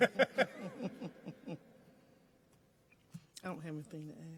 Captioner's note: laughing